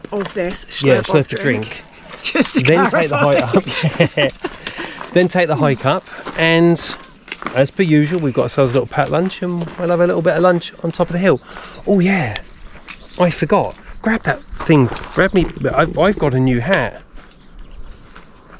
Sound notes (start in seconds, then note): 3.3 laughs